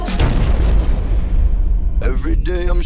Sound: loud explosion

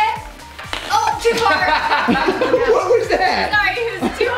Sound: group laughs

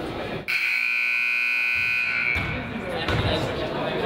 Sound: buzzer honks

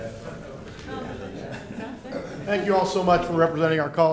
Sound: laughter

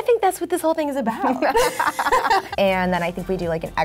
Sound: laughs

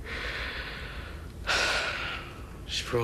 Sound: sighs

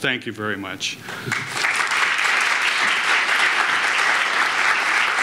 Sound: audience applauds

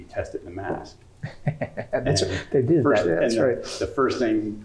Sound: laugh

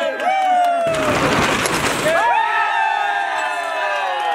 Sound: cheering

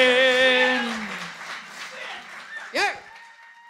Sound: audience cheering

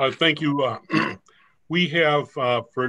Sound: clearing throat

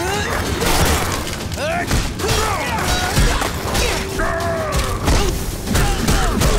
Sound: grunting

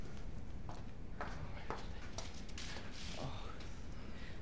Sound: heels clacking

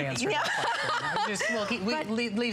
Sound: laughter

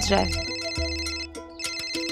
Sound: mobile phone ringing

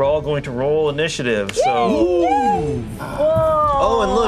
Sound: group cheers

